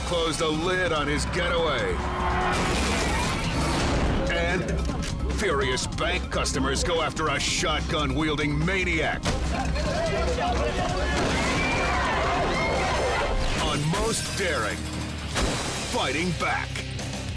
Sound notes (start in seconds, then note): 2.0 car crashes; 9.6 customers chanting